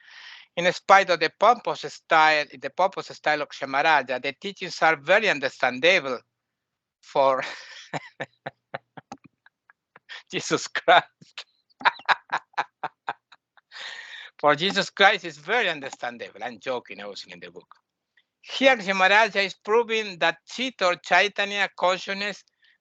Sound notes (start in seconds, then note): 7.9 laughing